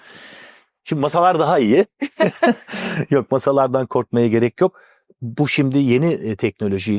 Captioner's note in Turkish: kahkaha